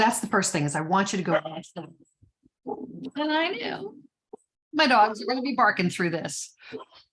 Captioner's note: dogs barking